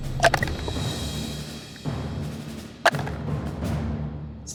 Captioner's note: die rattles